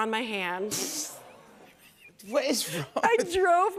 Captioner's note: audience groans